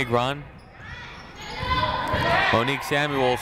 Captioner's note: people shouting in the crowd